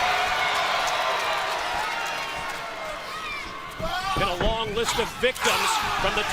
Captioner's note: crowd cheering